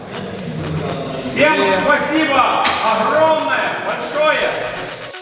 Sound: exclamation

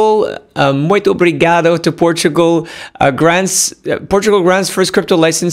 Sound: speaks Portuguese

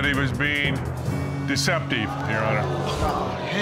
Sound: audience gasps

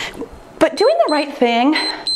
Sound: timer beeps

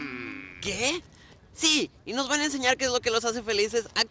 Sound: speaking Spanish

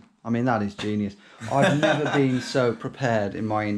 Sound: laughing

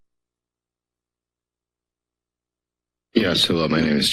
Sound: silence

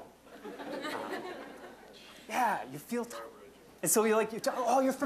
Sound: audience laughing

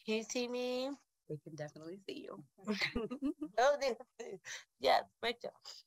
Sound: laughs

